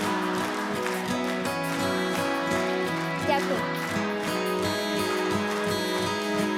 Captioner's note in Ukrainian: оплески